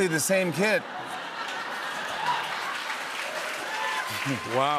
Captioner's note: laughter, cheers, applause